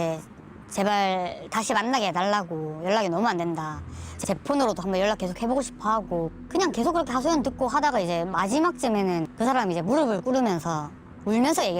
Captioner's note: voiceover